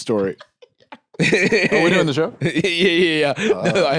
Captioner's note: laughs